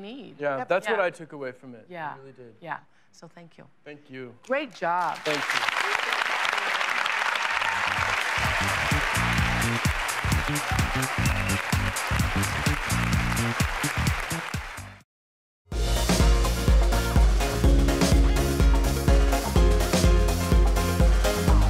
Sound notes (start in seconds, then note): 5.6 applause